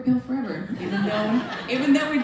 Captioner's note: laughter